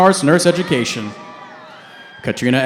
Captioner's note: cheering